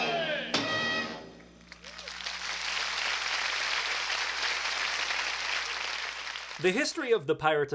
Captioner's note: audience applauds